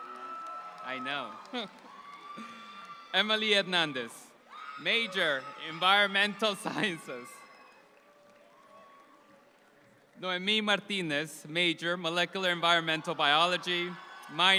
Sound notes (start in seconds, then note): 0.0 audience applauds; 4.9 Emily's mom shouts out